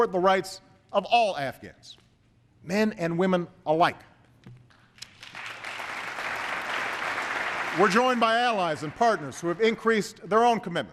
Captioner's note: applause